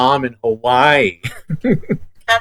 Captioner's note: giggles